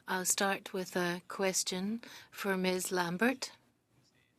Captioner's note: speaking French